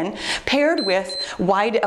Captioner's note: timer beeps